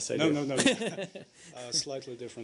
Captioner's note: laughter